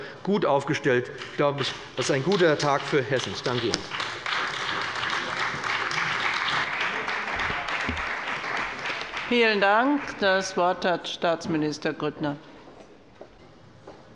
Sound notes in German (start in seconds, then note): 5.8 Beifall bei dem BÜNDNIS 90/DIE GRÜNEN und der CDU